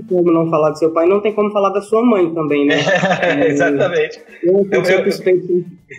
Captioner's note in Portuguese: Risos